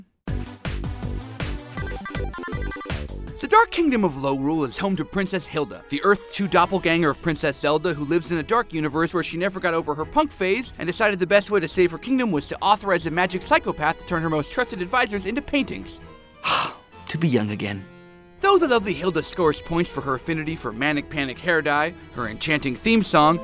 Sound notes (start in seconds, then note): 0.2 upbeat 8-bit music; 16.4 sighs